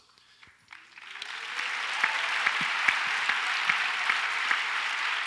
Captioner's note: audience applauds